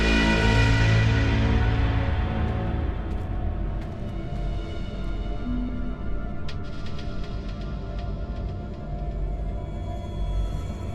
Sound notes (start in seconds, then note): 2.9 footsteps in gravel; 5.9 tense music